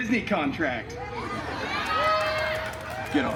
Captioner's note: guests cheering and laughing